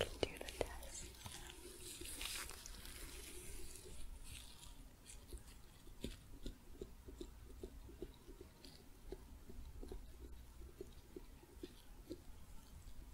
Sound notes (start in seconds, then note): 1.9 glove sounds, light tapping